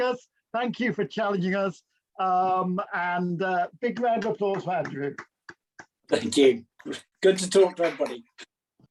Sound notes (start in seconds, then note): 4.0 applause